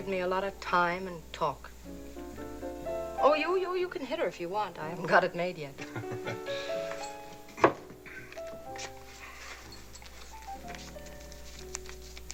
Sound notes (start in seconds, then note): 5.7 laughs